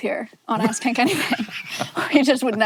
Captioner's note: both laughing